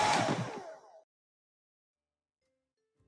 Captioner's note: Sonidos cesan